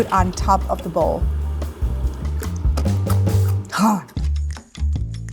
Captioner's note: crunches; laid back music